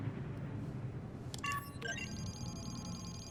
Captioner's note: clicks mouse, beeping